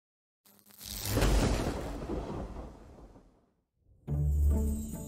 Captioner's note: thunder booming; light bouncy music